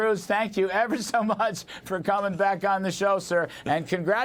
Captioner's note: laughter